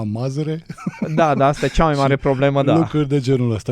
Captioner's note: laughter